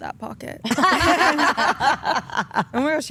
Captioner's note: all laugh